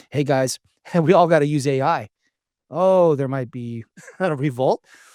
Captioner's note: laughs